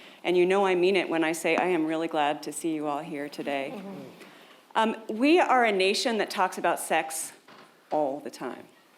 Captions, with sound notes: And you know, I mean it, when I say, I am really glad to see you all here today. (audience murmurs) We are a nation that talks about sex all the time.